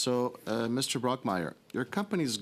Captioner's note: speaking French